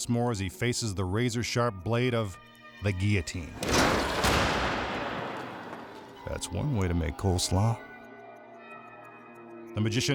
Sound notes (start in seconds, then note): 3.0 light dramatic music; 3.4 thunder crashes